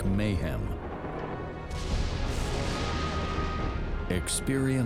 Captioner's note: thunder rumbling